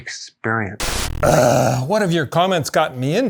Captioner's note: groans